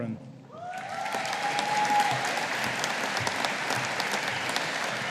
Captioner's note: audience applauding